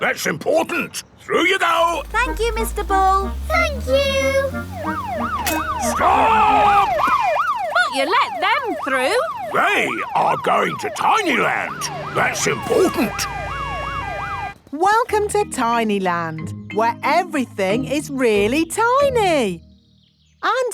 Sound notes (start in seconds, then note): 5.2 siren wailing; 13.5 sirens wailing